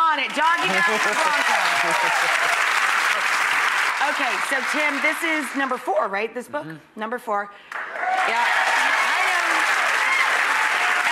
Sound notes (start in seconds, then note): 0.4 audience cheers; 7.7 audience applauds